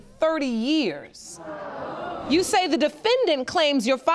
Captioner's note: audience exclaiming